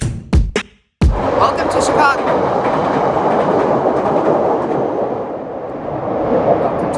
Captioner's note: train rumbling loudly